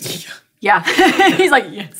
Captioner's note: laughing